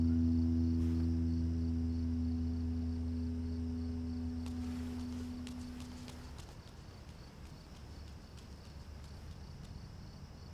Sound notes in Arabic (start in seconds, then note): 4.4 خطى